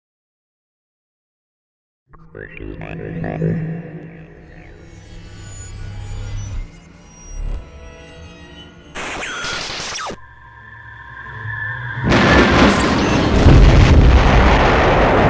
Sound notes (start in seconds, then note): 0.5 sound Effects